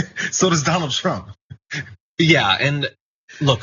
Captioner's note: laugh